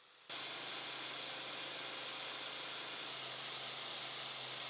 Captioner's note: machine whirring